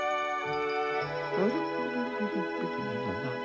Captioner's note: gentle humming